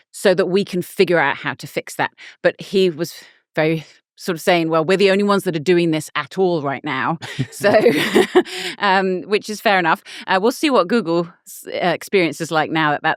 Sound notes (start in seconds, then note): 7.1 laughing